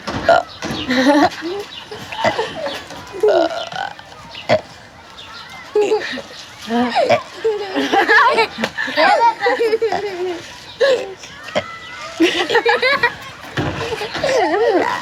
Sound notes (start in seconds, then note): 1.8 offscreen giggles; 3.2 continues burping